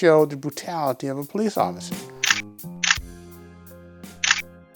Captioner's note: camera clicking